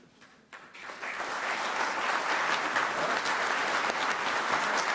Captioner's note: audience clapping